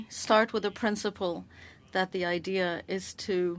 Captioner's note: speaking French